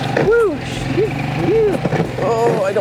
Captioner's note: engine rumbling; exclaiming